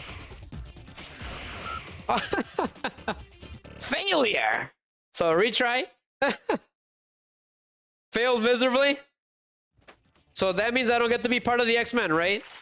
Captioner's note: laughter